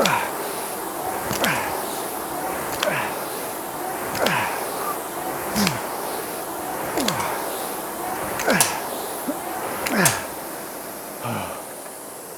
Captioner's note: grunting